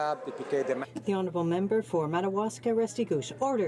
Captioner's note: some Applause